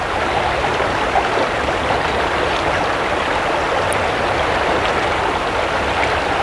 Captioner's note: rushing water